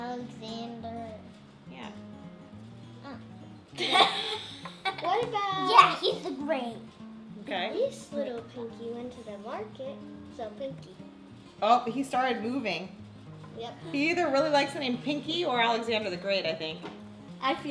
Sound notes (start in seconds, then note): 3.8 laughing